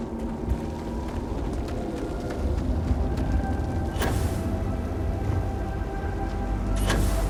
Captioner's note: door Opens